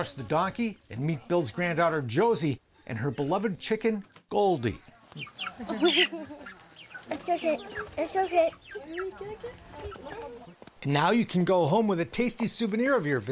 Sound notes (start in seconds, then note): 4.8 chicken chirping